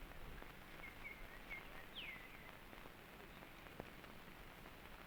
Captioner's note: birds chirping